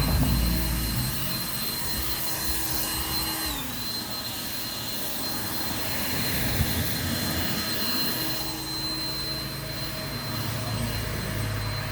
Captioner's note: blower Machine Noise